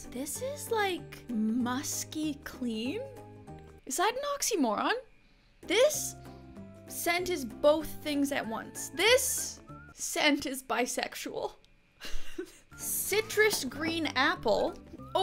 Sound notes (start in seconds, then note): 12.0 chuckles